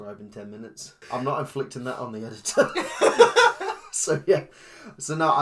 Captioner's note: laughs